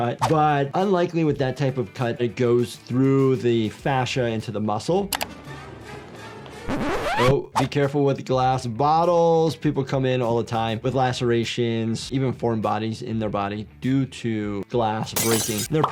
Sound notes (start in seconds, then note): 5.1 dramatic music; 5.1 tape squawking